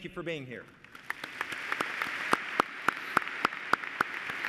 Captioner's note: applause